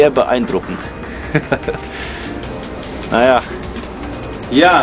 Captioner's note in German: lachen